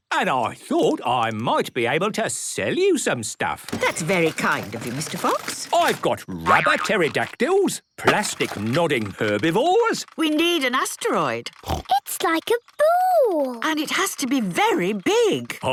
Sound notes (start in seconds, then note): 11.6 snorts